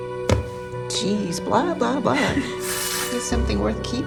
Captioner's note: laughs